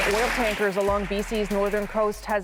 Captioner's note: applause